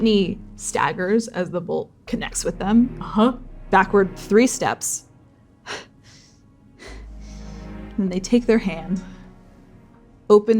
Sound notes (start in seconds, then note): 6.7 labored breathing